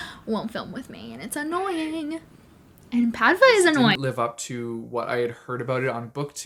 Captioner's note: cat meowing